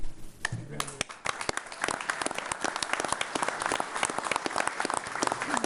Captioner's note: attendees applauding